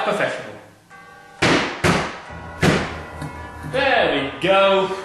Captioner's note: slam slam slam